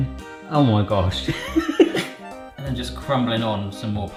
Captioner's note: laughs